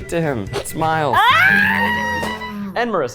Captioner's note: screaming